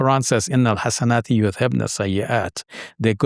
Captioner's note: speaking in foreign language